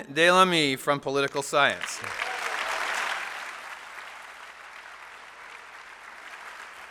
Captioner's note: applause